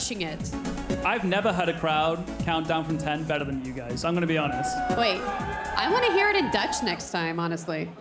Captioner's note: cheers and applause